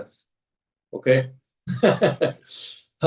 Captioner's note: laughs